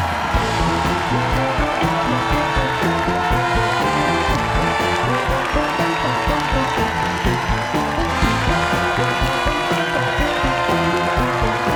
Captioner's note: cheers and applause